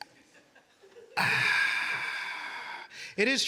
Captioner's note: sighing